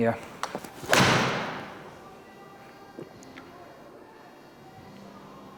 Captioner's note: golf club hits ball